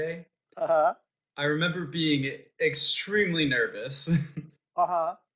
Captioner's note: laughs